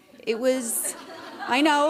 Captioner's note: laughter